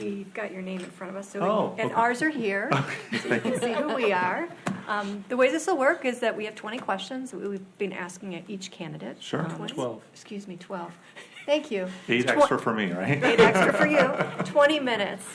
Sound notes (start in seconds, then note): 2.7 laughs; 2.7 board laughs; 13.2 board laughs